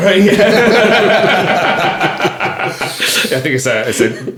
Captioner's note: all laughing